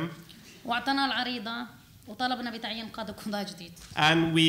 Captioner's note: speaking arabic